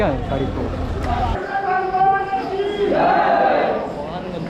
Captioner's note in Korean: 사람들이 막 소리쳤다